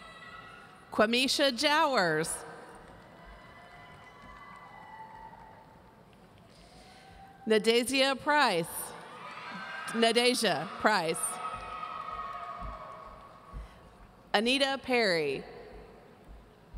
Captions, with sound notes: Quamisha Jowers. (audience cheering) Nadazia Price. (audience cheering) Nadazia Price. Anita Perry.